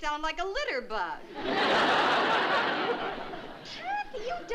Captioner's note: laughter